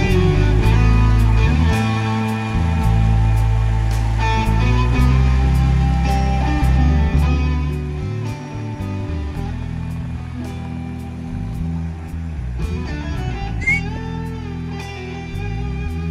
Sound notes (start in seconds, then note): 13.6 whistling